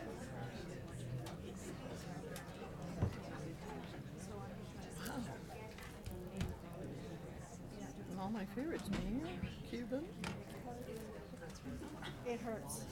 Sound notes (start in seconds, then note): 2.5 people chattering